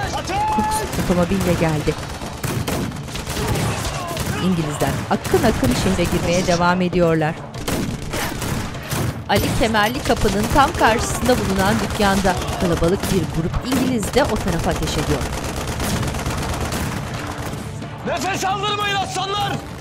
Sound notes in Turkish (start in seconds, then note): 1.9 Silah sesleri; 8.7 Silah sesleri